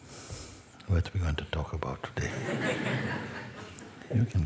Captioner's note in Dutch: gelach